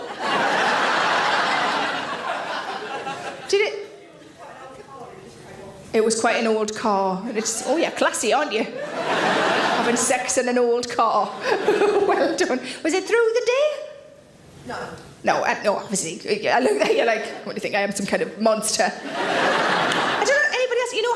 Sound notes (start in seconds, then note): 0.0 audience laughs; 8.6 audience laughs; 11.3 Sarah laughs; 18.9 audience laughs